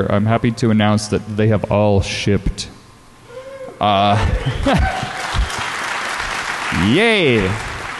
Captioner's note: applause